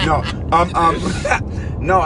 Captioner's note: driver laughs